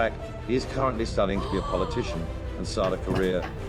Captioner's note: gasps